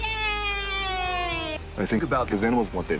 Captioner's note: children shouting